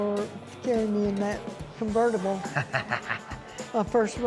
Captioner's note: laughs